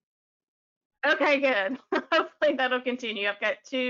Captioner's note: chuckles